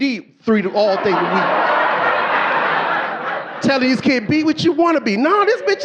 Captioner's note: audience laughing